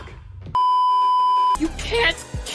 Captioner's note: beeeeeeeeeeeep